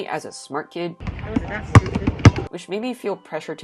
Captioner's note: basketballs bouncing